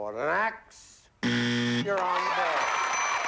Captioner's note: buzzer